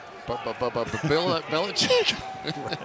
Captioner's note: stutters; chuckles